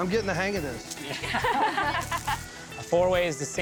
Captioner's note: ladies laughing